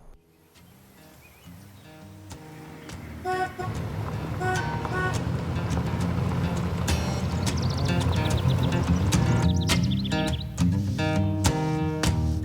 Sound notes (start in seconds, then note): 3.0 horn tooting